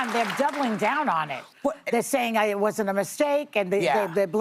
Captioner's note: applause